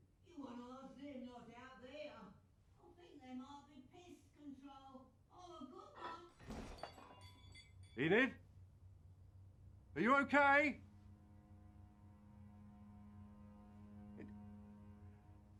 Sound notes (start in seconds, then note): 8.3 glass breaking; 8.3 loud crash